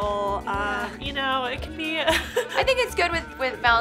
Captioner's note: laughing